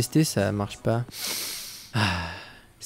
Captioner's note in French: renifle